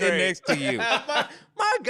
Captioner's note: laughing